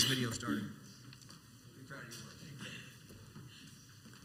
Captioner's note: coughing